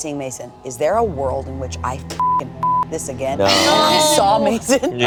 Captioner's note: beeping